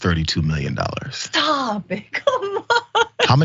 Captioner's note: laugh